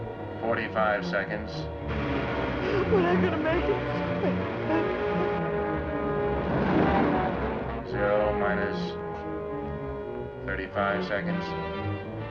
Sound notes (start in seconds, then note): 2.6 sobbing